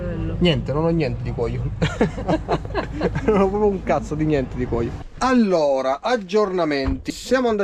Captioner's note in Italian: risate